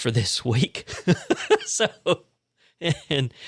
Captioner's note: laughs